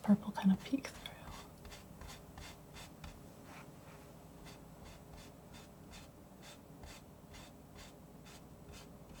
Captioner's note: scratching